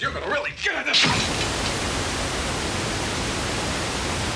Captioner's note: static buzzes